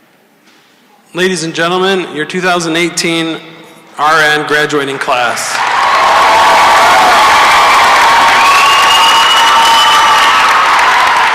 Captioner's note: cheering and applause